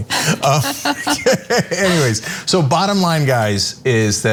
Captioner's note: laugh